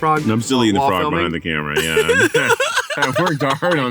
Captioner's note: Zach laughs